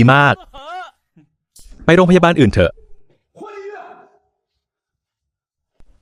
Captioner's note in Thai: เสียงหัวเราะ